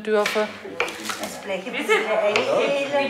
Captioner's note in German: Stimmgengewirr